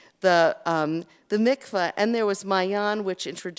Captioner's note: Hebrew